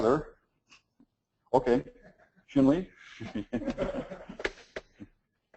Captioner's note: laugh